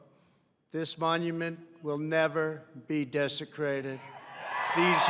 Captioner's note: applause